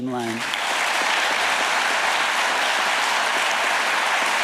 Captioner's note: audience applauding